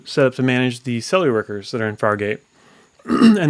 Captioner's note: coughs